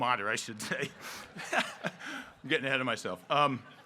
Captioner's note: all laughing